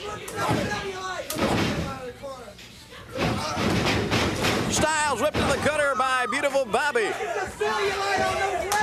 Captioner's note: crowd chatter